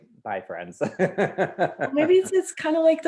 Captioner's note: laughs loudly